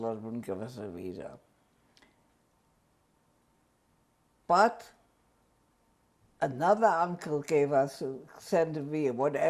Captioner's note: pauses for 3 seconds